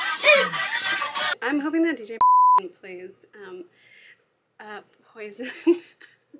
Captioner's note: singing along to music; beep